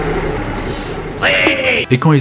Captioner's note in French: Bruit de vent; Ouaiiis